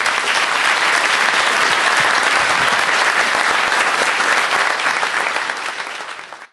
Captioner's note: applause